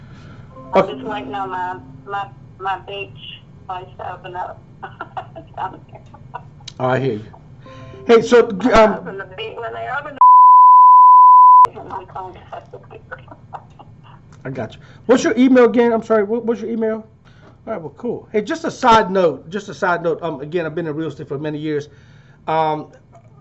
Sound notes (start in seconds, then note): 4.8 laughing; 10.2 beep